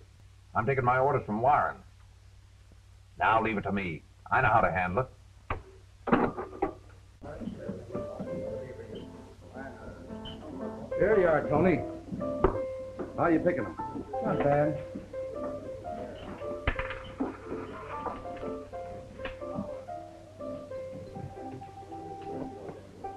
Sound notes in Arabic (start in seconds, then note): 7.1 موسيقى بيانو هادئة; 7.2 ثرثرة الناس; 16.7 خشخشة العملة المعدنية; 19.7 الناس يتذمرون